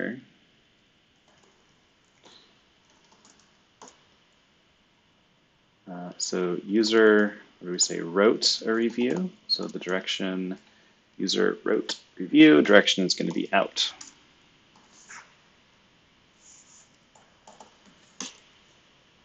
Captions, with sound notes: (computer keyboard clicking) So user, where we say wrote a review, so the direction user wrote review, direction's gonna be out. (computer keyboard clicking)